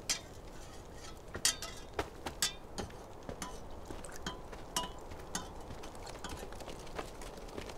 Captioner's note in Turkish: Kepçe Karıştırma Sesleri